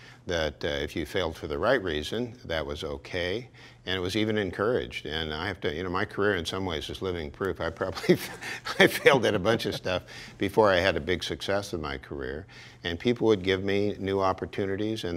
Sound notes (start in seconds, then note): 7.9 laughs